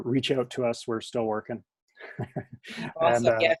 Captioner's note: chuckles